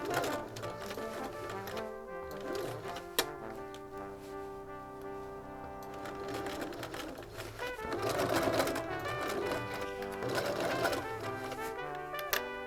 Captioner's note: sewing